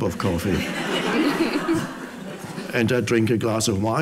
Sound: audience laughs

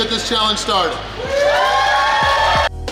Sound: crowd cheers; upbeat music

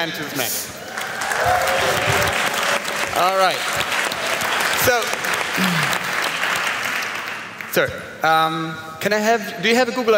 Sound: applaus

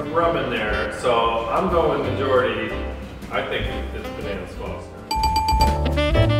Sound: correct answer bell

